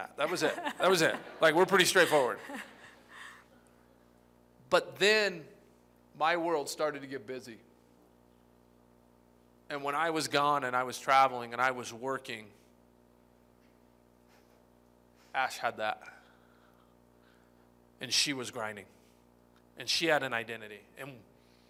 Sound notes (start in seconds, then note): 0.2 laughter